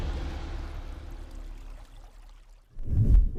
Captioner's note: water running